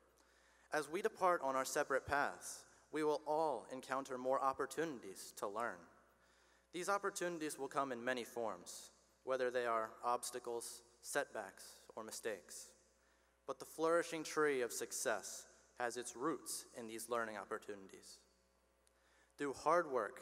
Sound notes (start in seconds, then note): none